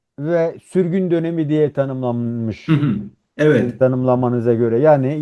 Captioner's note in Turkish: boğazını temizler